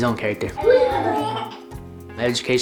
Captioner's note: giggling